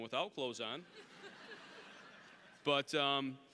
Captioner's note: audience laughing